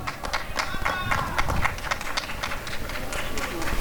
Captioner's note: applause and cheering